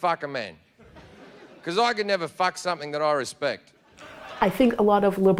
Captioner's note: laughter